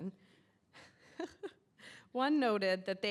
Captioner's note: laughing